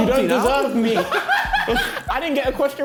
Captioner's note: men laughing; Ethan laughing